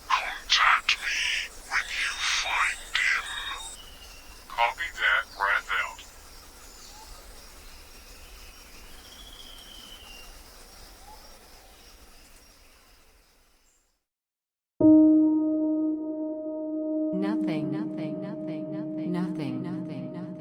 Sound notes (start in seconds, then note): 14.8 calm ambient music; 18.4 voice echoing